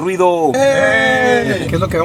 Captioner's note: cheering